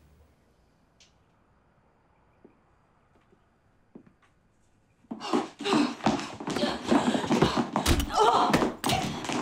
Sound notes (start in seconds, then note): 5.2 gasps; 6.2 grunting; 7.7 groans